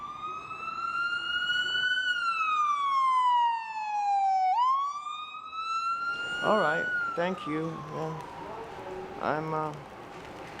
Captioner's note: sirens